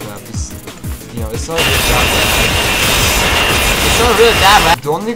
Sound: grinder.mp3

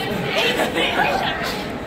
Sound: laughs

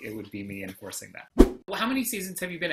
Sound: whoosh

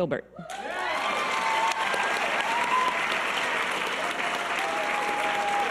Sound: audience cheers and applause

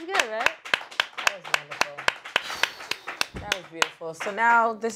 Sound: claps

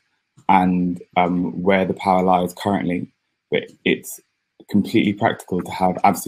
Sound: erm

